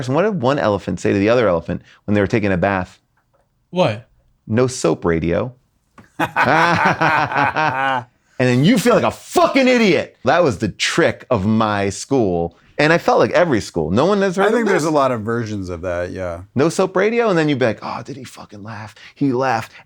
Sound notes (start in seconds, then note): 6.0 all laughing